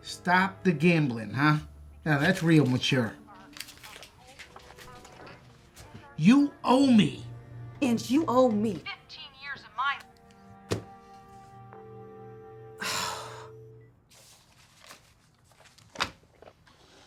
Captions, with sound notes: STOP THE GAMBLING, HAH. NOW THAT'S REAL MATURE. YOU OWE ME. AND YOU OWE ME FIFTEEN YEARS OF MY-- [DIAL TONE]